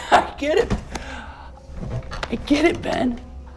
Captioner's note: laughs